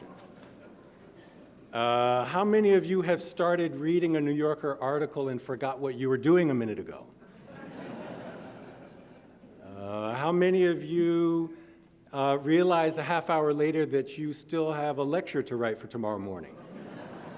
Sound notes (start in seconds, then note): 0.0 audience chuckling; 7.3 audience laughing; 16.5 audience laughing